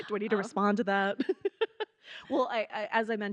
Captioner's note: giggling